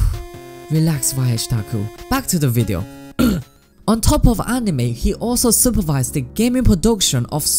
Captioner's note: clears throat